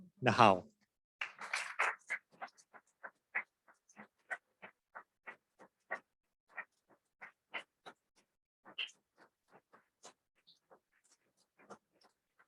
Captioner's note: applause